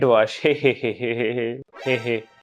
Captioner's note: sarcastic laugh